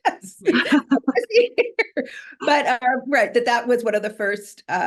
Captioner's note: laughs